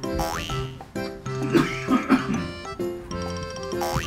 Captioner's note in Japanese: 父の咳